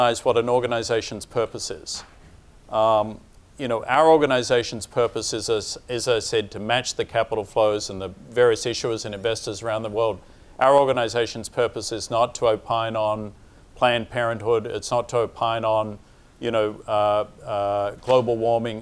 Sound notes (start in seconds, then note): none